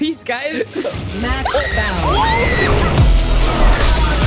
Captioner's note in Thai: เสียงตะโกน